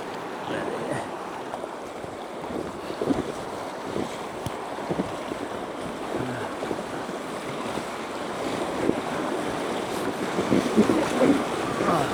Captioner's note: water splashing